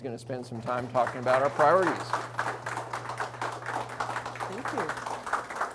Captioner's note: audience applauds